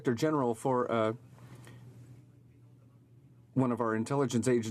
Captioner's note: speaking in french